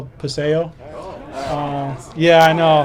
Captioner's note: indistinct excited chatter